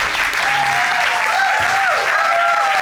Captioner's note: audience whooping